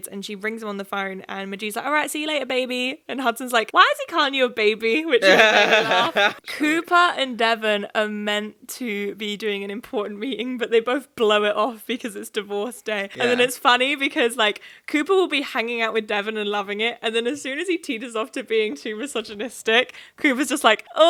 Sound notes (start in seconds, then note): 5.2 laughing